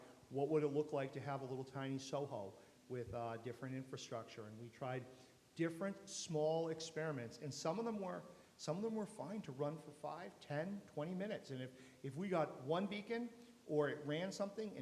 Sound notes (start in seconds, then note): none